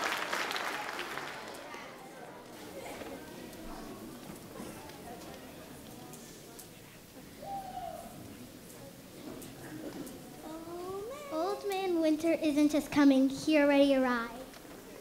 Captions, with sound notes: (background chatting) - Old man winter isn't just coming, he already arrived.